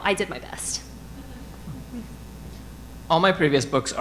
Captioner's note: audience laughing